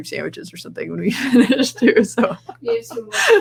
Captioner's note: laughs